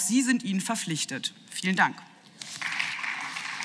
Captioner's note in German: Beifall